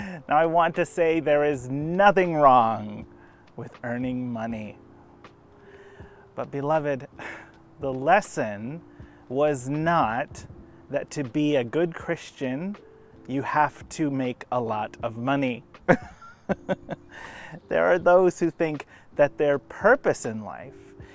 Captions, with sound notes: Now I want to say there is nothing wrong with earning money. But beloved. The lesson was not that to be a good Christian, you have to make a lot of money (laughs). There are those who think that their purpose in life